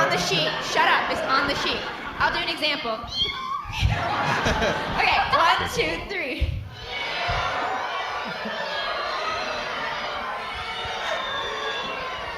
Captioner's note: cat meowing